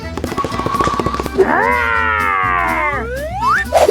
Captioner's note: growling; snap